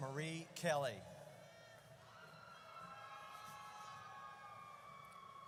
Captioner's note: audience cheers